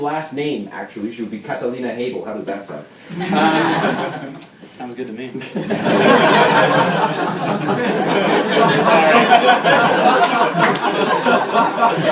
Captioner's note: laughter